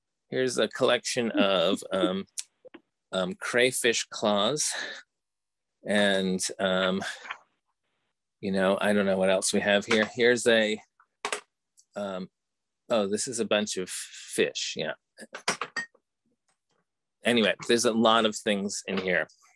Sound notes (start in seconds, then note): 0.0 chuckling; 15.4 glass clinking